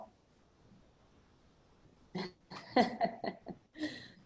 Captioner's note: laughter